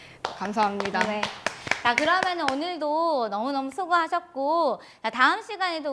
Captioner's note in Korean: 박수